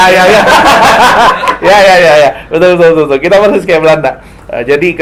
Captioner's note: constant laughter